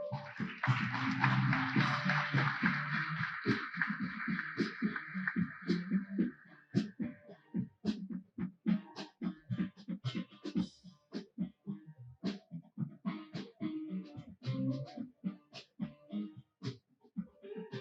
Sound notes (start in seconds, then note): 4.8 applause